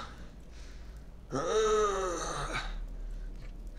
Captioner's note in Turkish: İnleme sesi